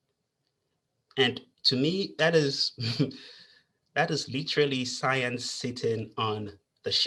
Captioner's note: chuckles